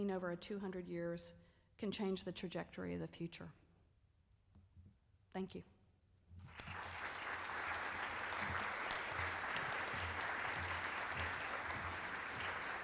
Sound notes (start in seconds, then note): 6.4 applauding